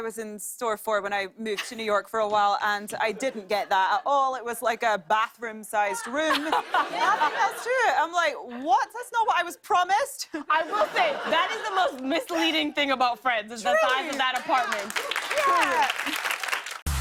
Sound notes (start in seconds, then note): 6.0 laughter; 10.3 laughter; 13.7 applause